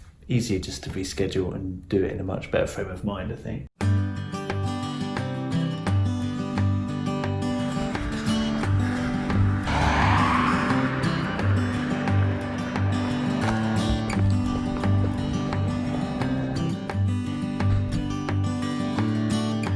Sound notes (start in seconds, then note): 3.8 relaxing guitar music; 10.1 car driving